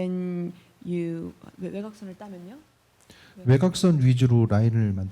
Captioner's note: speaking korean